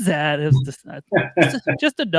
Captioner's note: laughing